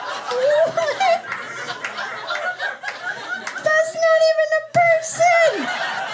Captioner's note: laughter